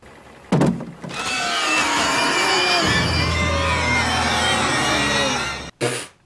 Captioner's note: shrieks